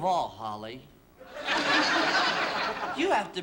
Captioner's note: laughter